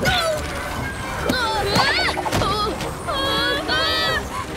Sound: grunting; grunting and whimpering

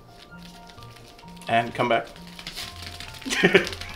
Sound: laughs

